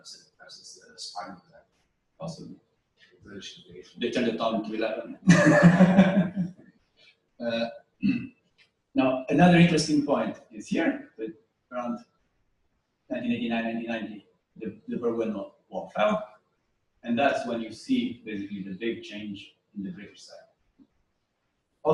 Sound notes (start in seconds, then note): 5.2 laughter